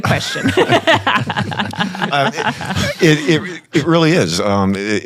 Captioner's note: panel laughing